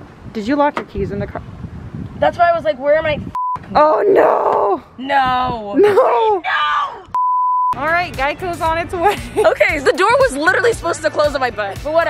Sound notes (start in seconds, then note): 3.3 beep; 7.1 beeping